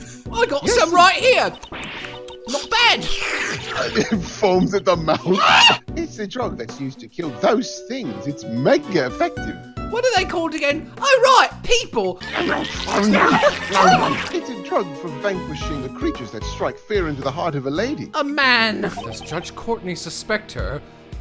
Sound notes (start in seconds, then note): 1.0 om nom nom nom